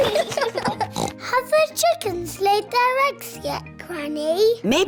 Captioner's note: both giggling; oinks